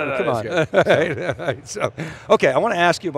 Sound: laughing

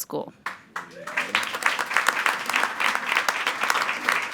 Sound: attendees applauding

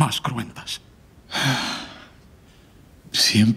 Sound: Prince sighs

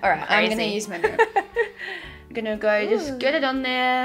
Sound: laughs

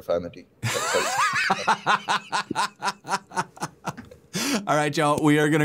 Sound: laughter

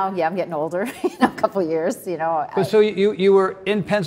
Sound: chuckles

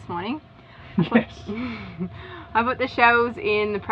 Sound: laughing

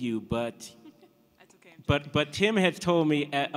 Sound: laughter

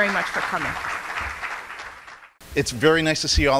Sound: audience clapping

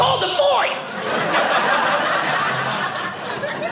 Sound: audience laughing

